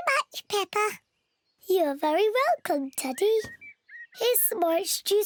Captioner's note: in squeaky voice; in normal voice